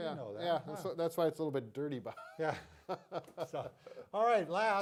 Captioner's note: laughs